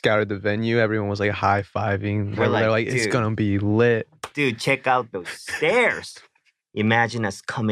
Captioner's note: chuckles